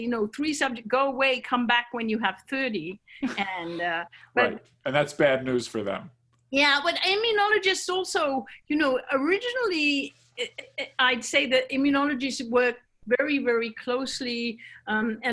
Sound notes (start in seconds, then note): 3.2 chuckles